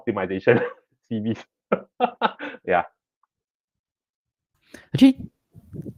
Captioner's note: laughs